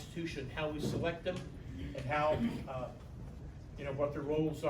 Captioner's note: stammers